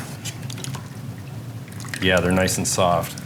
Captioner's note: sloshing